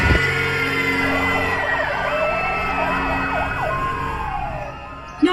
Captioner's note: sirens blaring